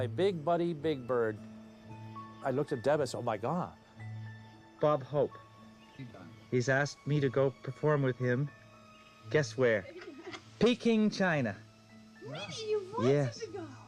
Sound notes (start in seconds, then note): none